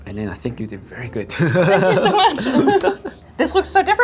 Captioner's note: laughing